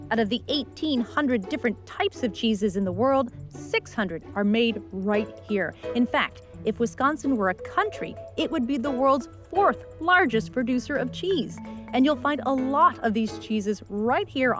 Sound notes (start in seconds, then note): none